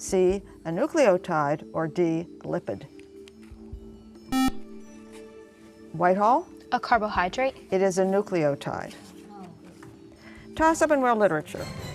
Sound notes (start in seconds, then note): 2.7 buzzer